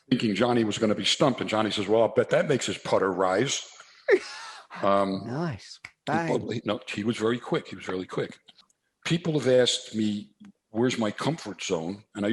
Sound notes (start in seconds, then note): 4.1 laughs